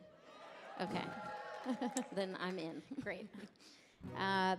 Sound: audience cheering

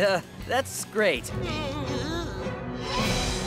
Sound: shuddering

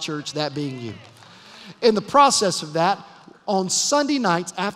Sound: applause

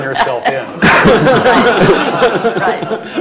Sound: laughter

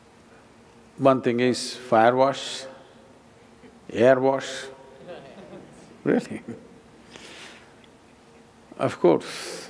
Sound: few laugh

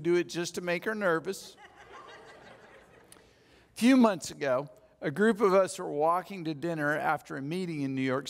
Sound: audience laughs

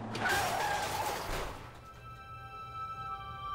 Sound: crash

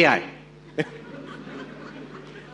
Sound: audience laughs

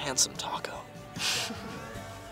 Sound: chuckles

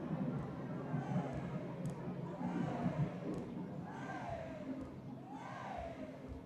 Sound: chanting

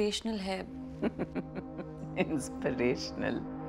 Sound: giggling

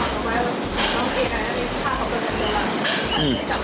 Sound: crunchy sound

